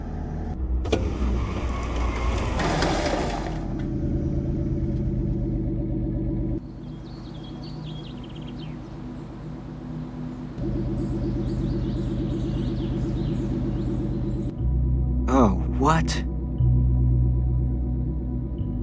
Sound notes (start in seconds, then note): 0.8 truck stopping quickly